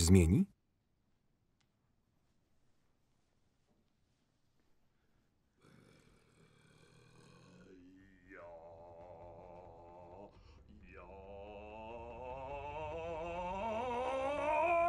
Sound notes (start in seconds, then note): 5.5 grunting; 8.6 moaning; 12.3 yelling